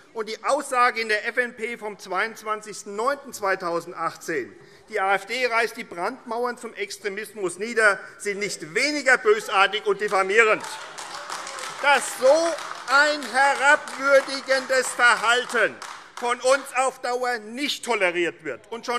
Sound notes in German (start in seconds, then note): 9.5 Lebhafter Beifall AfD - Widerspruch CDU und BÜNDNIS 90/DIE GRÜNEN